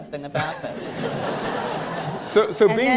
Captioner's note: laughter